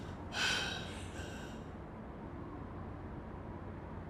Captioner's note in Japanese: ため息